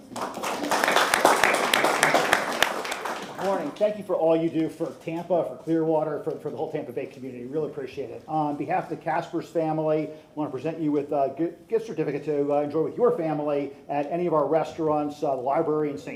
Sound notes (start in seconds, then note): 3.8 applause